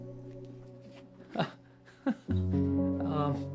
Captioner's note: laughing